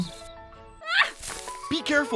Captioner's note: Arbor yells